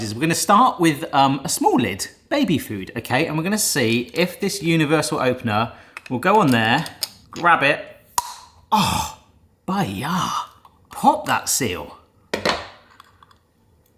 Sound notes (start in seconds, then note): 8.0 seal pops